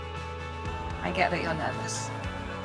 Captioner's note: voiceover